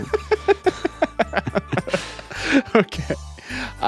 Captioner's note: laughing